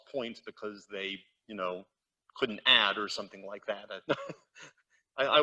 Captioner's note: chuckles